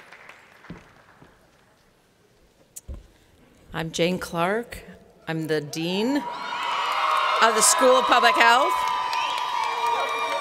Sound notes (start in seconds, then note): 0.0 cheers and Applause; 6.2 cheers and Applause